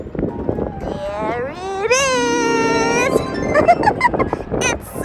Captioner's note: laughs